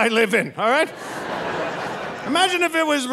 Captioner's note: audience laughing